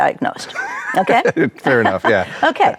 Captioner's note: chuckles